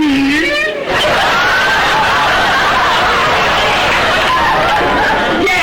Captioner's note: audience laughter